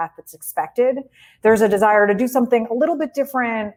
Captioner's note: none